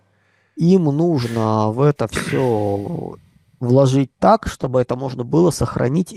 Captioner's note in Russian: откашливается